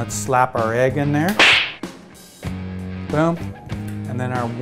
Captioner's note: slap sound